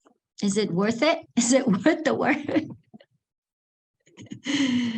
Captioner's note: laughs